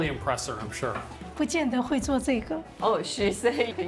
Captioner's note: speaking local language